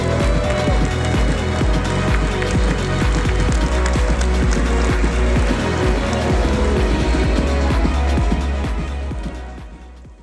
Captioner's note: applause